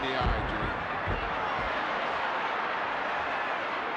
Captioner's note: crowd yelling